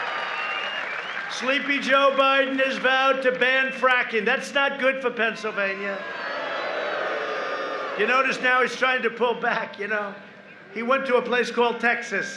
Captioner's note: applause